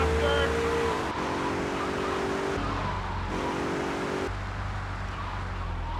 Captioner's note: car engine roaring